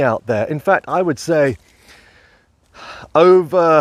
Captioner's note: loudly exhaling